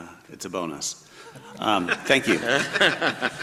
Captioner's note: everybody laughs